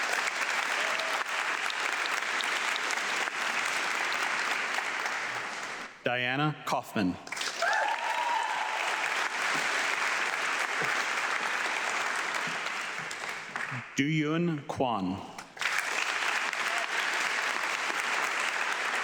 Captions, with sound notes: (audience clapping) Diana Kofman. (audience clapping) Doyoon Kwon. (audience clapping)